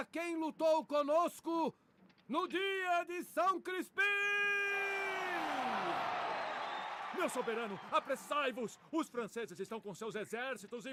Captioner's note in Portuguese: aplausos